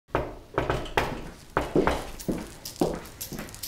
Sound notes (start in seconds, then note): 0.5 knock, knock